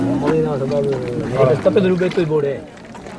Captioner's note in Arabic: الصوت المنطوق الأجنبي